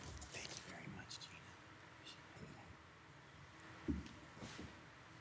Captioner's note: whispers